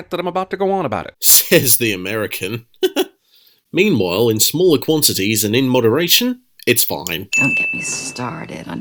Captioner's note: chuckles